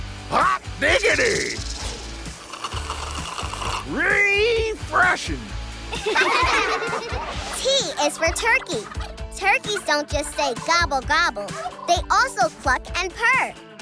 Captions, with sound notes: Hot diggity! Refreshing! [laughing] T is for turkey. Turkeys don't just say gobble-gobble, they also cluck and purr.